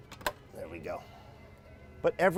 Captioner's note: door opening